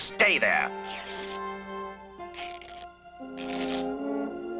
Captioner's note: cloth ripping